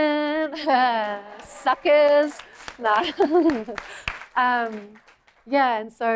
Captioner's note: applause; laughter